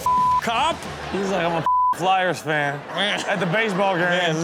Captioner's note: beep